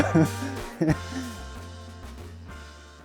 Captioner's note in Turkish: kahkaha